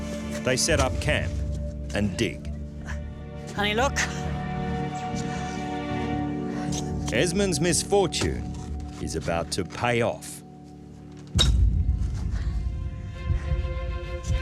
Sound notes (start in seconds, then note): 11.3 shovel thuds on ground; 12.6 emotional music